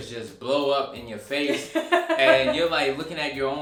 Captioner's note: laughing